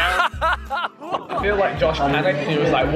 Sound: SIMON laughs

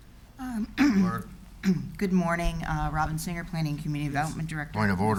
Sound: clears throat

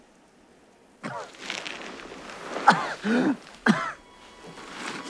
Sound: coughing; somber music

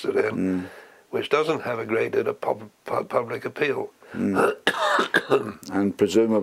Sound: cough

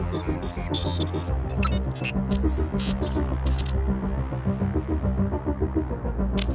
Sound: robotic sounds of shrieker

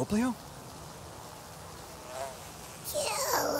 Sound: flies buzzing; strained

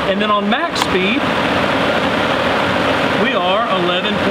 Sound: blower motor whirring

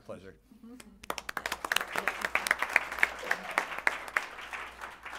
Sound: applause

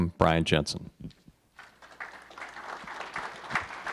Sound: applause

